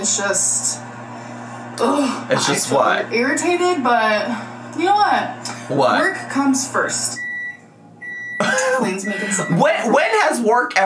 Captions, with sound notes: it's just ugh. - It's just what? - My eyes feel irritated, but you know what? - What? - Work comes first. (microwave beeping) Faline's making something. - When has work